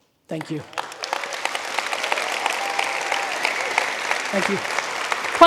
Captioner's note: audience applauding